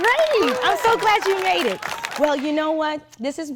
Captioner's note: audience applauding